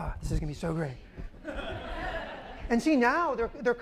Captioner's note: laughter